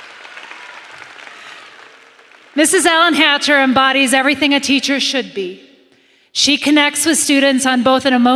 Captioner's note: applause